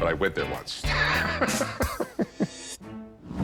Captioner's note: laughs